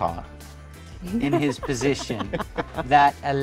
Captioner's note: laughing